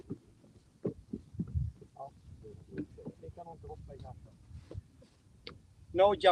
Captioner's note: indistinct chatter